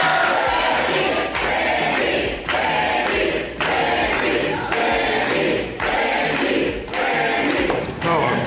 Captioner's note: crowd